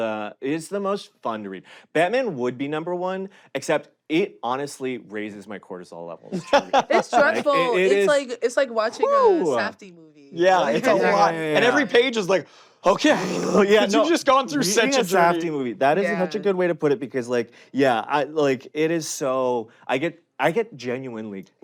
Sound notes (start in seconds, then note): 6.3 laughs